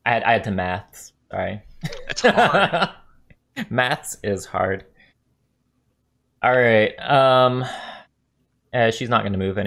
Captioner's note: laugh